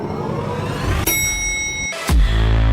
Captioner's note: elevator rings